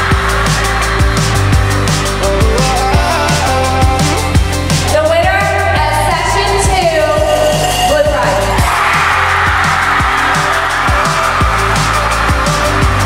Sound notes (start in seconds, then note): 0.0 mass cheer of excitement; 7.1 bells ring as a drum roll; 8.6 mass cheer of excitement